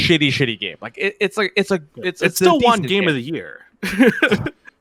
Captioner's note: laughs